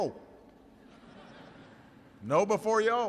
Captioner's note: laughter